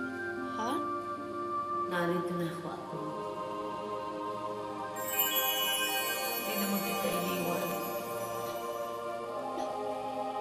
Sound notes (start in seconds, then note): 4.9 sparkling noise